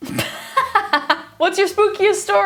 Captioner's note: laughing